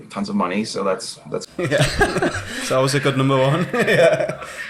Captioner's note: all laughing